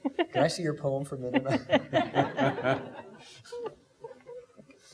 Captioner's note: laughing